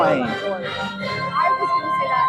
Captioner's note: faintly speaking